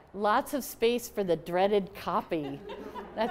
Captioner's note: laughter